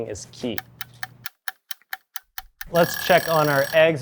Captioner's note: timer ticking; timer rings